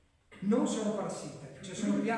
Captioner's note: clears throat